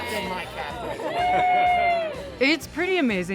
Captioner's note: cheering